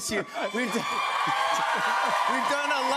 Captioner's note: cheers and applause